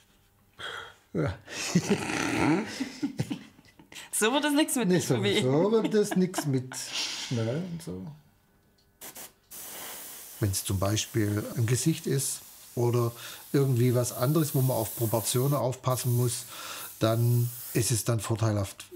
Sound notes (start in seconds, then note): 1.4 they both laugh